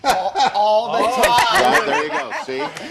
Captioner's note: laughter